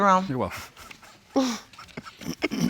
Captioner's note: chuckling